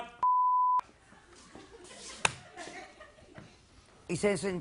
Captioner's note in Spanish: Bip